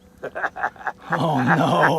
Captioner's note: laughter